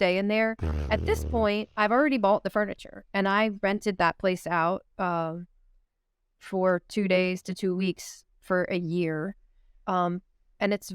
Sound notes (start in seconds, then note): 0.6 blows raspberry